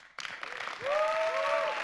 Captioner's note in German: Applaus